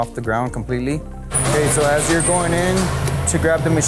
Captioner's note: loader roars